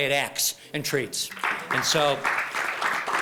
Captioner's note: applause